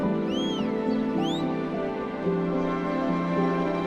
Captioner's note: whistling; soft dramatic music